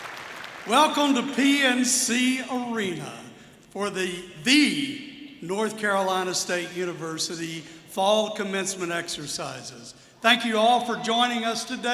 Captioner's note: applause